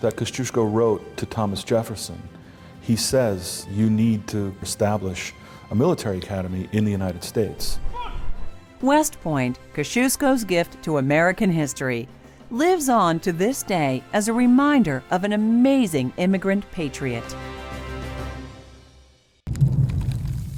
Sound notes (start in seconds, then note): 7.5 OFFICER</b> <b>SHOUTING